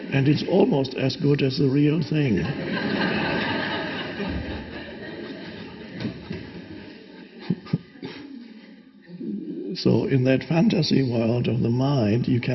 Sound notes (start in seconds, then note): 2.4 audience laughs